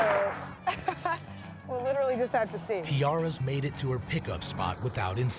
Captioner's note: laughs